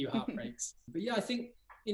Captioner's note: laugh